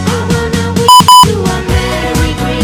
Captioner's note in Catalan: doble bip